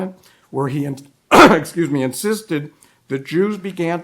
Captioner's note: coughs